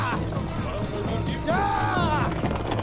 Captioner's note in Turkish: Atlıların sesleri